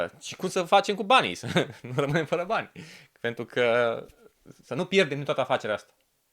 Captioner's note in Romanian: râsete